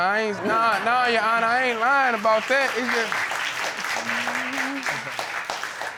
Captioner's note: audience applauding